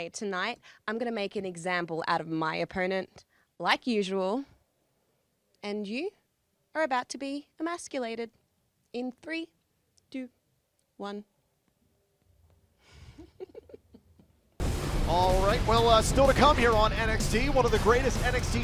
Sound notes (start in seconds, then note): 12.9 giggling